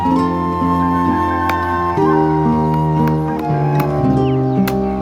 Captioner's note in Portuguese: Batidas em madeira